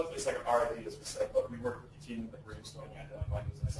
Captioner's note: distorted speech